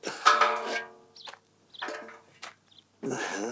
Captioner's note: clunk